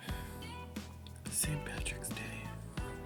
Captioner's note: dejected tone